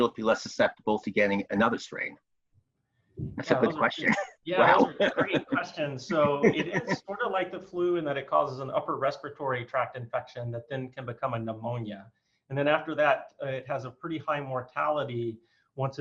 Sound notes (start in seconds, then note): 4.5 chuckles